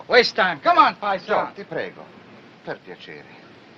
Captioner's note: speaking in italian